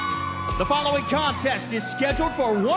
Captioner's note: bell ringing